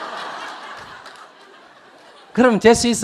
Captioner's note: audience Laughter